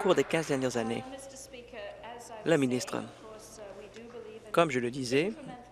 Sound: applause

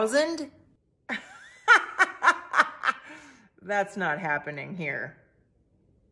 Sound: laughing

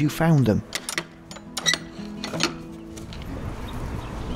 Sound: sound of gate closing

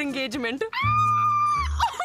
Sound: screams

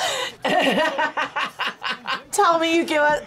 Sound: both laugh; laughs

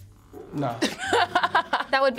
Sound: laughs

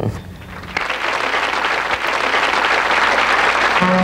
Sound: clapping

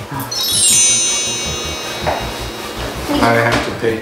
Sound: sparkle sound effect

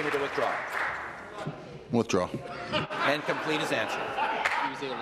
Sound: applause

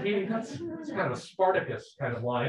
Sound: people laughing

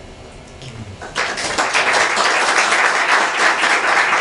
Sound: applause

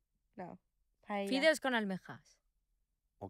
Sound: speaking foreign language

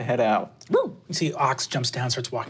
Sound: barks

